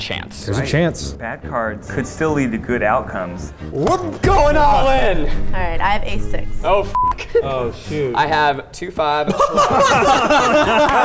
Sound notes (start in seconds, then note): 6.8 beep; 9.2 laughing